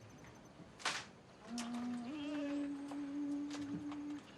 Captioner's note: humming